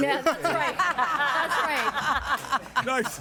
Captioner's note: everyone laughing